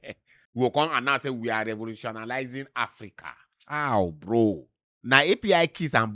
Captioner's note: laughs